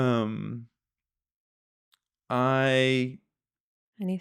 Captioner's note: laughing